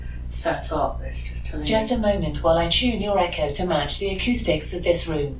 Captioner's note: Alexa speaking again